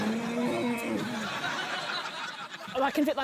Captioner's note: grunts